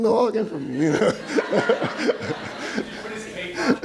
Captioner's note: laughing